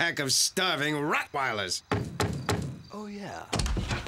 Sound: <i>knock at door</i>

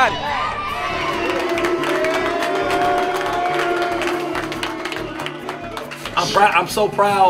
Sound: cheering

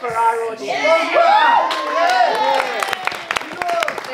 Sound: all cheer

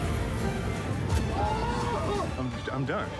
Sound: screaming

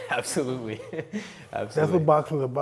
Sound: laughs

